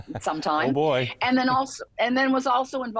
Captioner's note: laughing